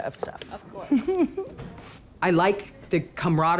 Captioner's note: laughter